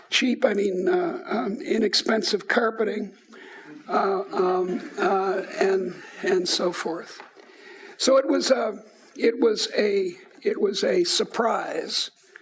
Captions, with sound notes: cheap, I mean inexpensive carpeting. (laughing) And so forth. So it was a surprise.